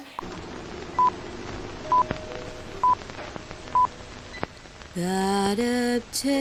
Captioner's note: vintage film reel bleeping